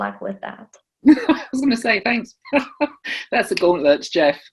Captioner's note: laughs